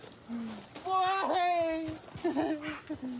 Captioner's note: sobs